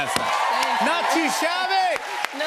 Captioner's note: cheers and applause